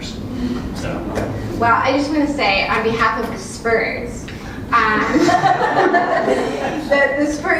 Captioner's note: laugh